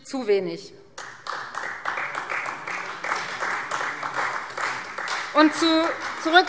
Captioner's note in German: Beifall Freie Demokraten